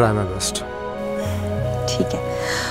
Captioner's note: Gauravi exhales